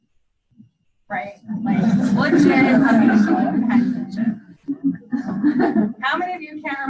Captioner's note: students laugh